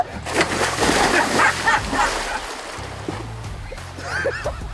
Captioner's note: laughing